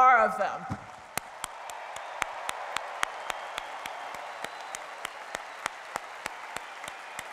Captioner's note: cheering and applause